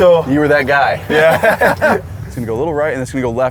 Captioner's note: laughs